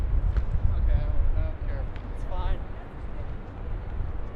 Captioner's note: indistinct chatter